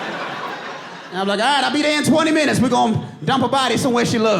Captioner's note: audience laughing